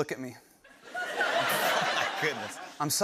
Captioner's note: laughter